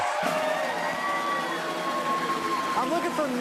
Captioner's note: cheers and applause; drumroll